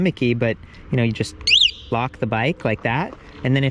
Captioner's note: alarm blares